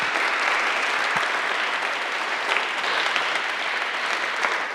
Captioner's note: audience applauding